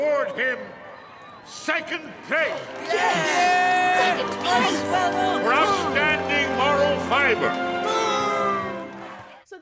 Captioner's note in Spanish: Saludos y abucheos sobrevienen